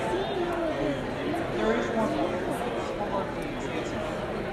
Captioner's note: people talking